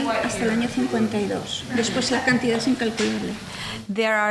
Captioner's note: speaking in foreign language